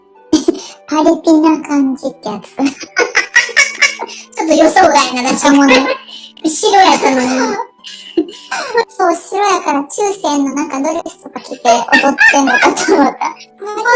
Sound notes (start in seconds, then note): 2.6 laughs; 5.3 laughs